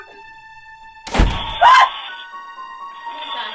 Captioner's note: door slams; Kathryn yelps